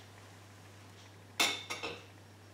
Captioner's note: tablespoon clinks